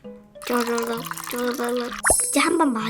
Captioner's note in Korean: 쪼르륵